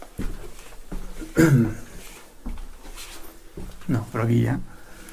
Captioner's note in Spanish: carraspeo